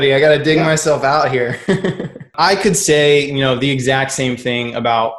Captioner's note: laughs